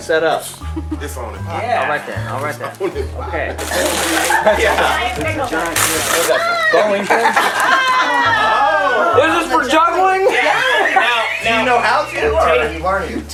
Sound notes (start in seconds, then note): 4.0 family chattering; 7.5 laughing